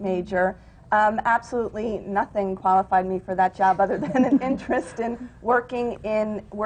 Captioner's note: laughs